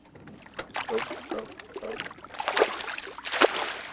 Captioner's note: fish splashing